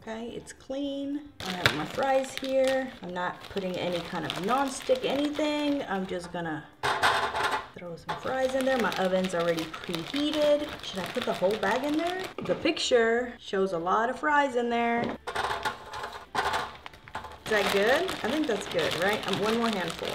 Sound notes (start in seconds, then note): 3.3 fries clatter; 11.7 fries clattering; 16.4 bag crinkling